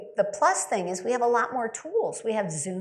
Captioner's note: none